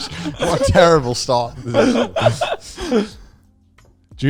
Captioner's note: all laughing